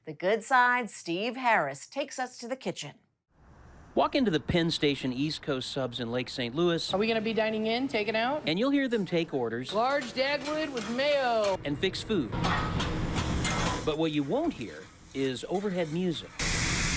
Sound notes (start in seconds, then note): 12.3 spatulas clanking; 16.7 food sizzling